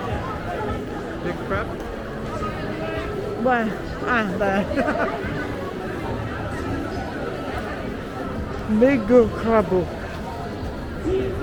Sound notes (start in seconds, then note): 4.5 laughs